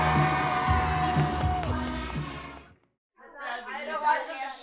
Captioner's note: cheering